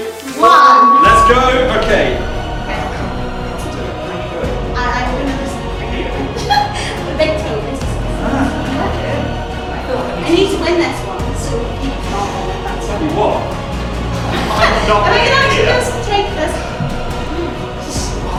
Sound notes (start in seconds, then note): 2.2 intense music; 6.1 laughs